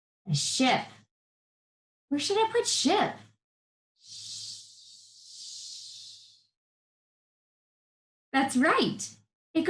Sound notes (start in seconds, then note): 4.0 vocalizing the sh sound